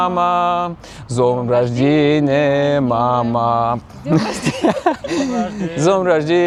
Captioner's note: laughter